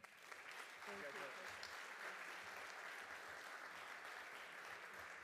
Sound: audience applauding

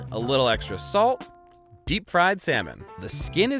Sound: bell dings

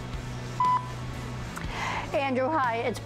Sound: phone beeps

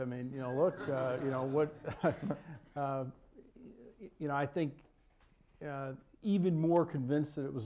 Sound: laughter

